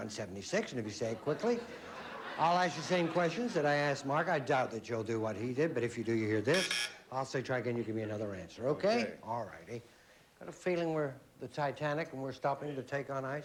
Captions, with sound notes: AND IF YOU SAY IT QUICKLY... I'LL ASK YOU THE SAME QUESTIONS I ASKED MARK. I DOUBT YOU'LL DO WHAT HE DID, BUT IF YOU DO, YOU HEAR THIS... [BUZZ BUZZ] I'LL SAY TRY AGAIN. YOU GIVE ME ANOTHER ANSWER. OK? ALL RIGHTY. GOT A FEELING WE'RE THE TITANIC WHEN WE'RE STOPPING TO TAKE ON ICE.